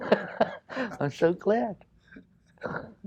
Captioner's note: laughs